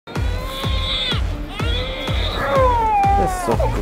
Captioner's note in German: Musik und Geschrei von Baby